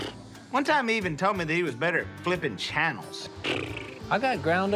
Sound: flaps lips

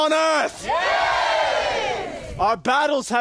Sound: CROWD: Yeaaa

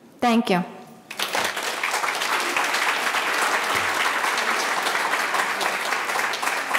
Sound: audience applauding

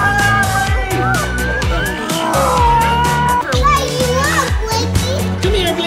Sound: screams of excitement

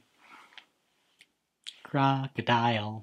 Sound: clap

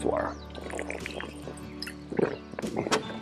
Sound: gulps

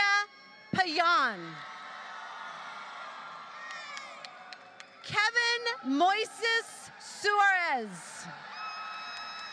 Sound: applause

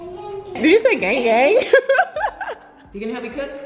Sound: laughing

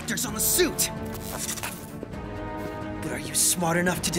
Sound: electric static

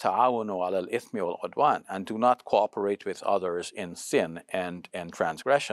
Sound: speaks Arabic

